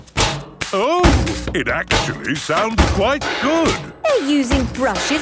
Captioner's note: rhythmic clanging